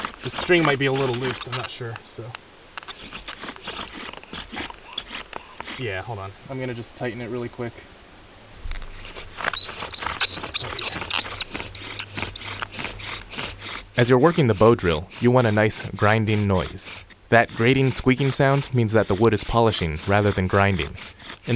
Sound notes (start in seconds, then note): 9.5 bow drill squeaking